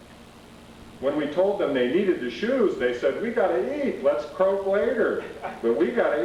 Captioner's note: laughter